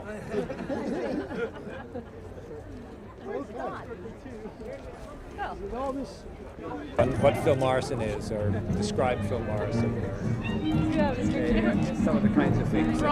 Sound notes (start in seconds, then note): 0.1 laughter; 3.0 indistinct chatter